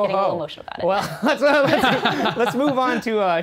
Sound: laughing

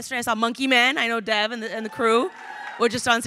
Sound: crowd cheering

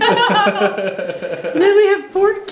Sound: laughing

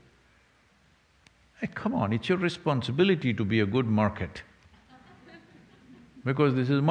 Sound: few laugh

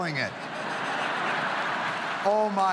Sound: audience laughs

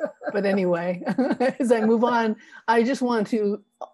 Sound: both laugh

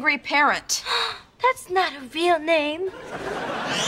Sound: gasping

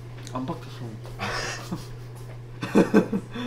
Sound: laughing

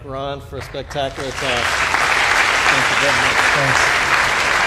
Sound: applause

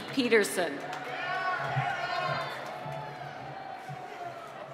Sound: cheering

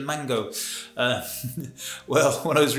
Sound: he laughs

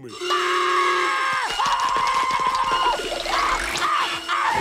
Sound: screaming

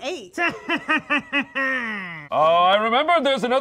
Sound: laughs

